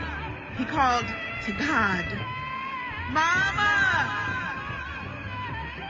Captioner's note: echoes